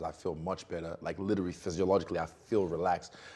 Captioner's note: sighing